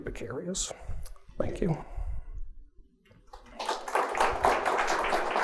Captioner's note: audience applauds